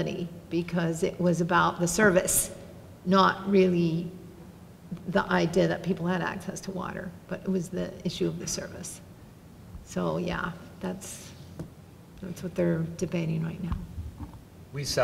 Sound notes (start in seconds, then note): none